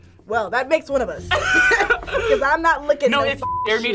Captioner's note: laughs